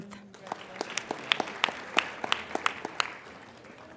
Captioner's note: applauding